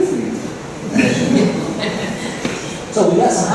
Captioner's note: laughter